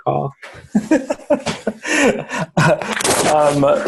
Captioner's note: laughing